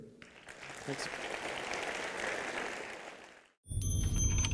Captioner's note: applause